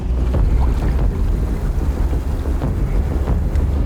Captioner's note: water bubbling